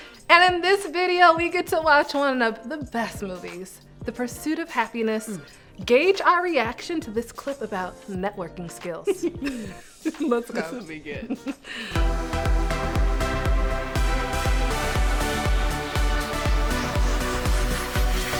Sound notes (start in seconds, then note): 9.0 giggling; 11.9 upbeat music